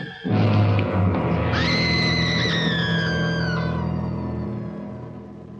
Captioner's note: Doris screaming